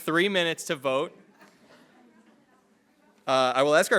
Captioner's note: attendees laughing